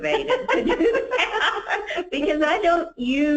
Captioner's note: laughs